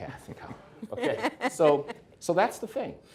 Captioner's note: guests laughing